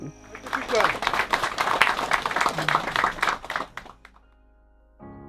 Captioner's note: people clapping